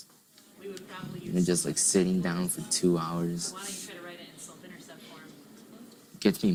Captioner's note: teacher talking in background